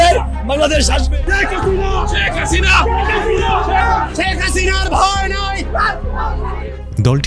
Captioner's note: shouting